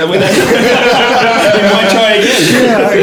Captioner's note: laughing